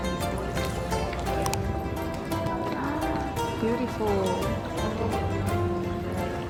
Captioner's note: A peaceful, healing moment with just the sound of the water 🌿